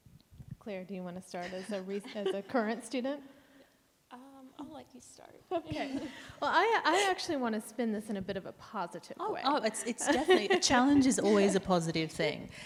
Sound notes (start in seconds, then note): 5.2 chuckles; 10.0 laughs